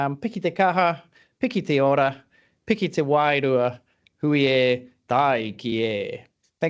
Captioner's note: speaking in te reo Māori